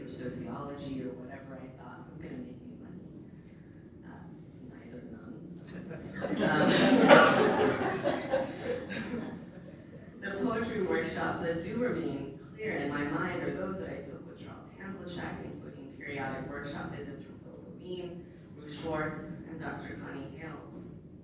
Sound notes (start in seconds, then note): 6.0 laughs; 6.0 audience laughter